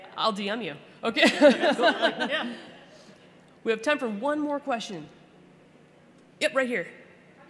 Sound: laughter

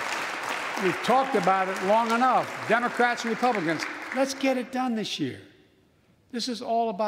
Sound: applause

